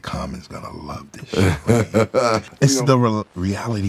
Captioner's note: laughing